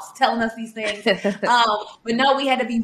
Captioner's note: chuckling